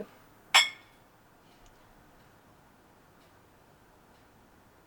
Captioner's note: glasses clinking